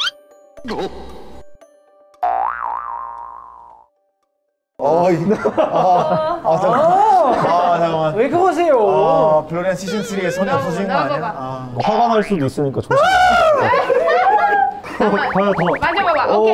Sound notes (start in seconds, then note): 12.9 starts screaming / turned into a crow!